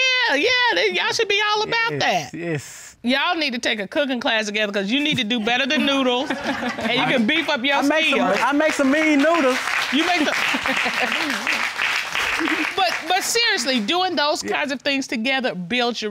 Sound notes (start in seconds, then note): 10.0 laughs